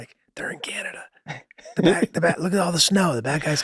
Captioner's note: Rob laughing amusingly